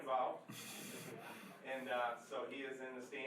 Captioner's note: laughing